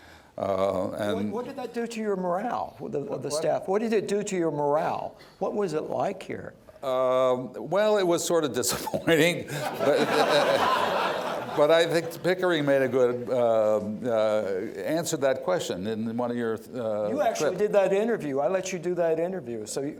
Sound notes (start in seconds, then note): 9.4 laughter